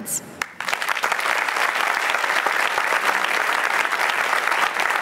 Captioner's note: applause